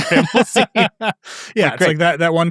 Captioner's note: laugh